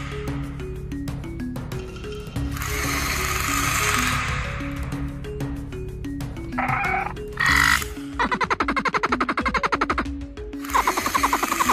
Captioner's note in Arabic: أصوات ترودون